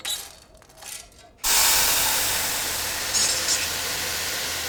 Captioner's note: hissing